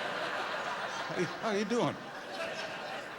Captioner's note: laughter